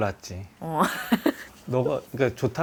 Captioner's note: laughs